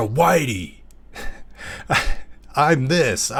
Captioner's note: laugh